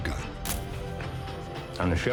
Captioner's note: shutter